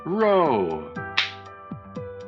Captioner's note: smack